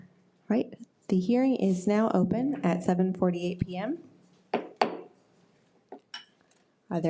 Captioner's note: gavel bangs